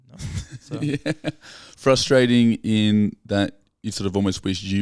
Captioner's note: laughing